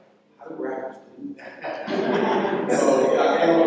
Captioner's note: laughter